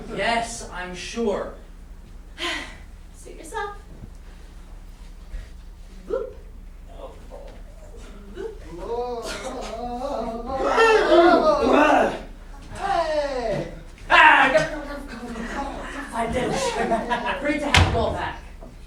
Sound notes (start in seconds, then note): 8.8 pigs-turning-into-sailors noises; 12.8 sailors cheering and chattering in grammelot